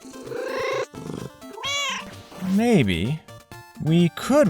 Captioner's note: meow